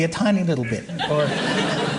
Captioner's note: laughter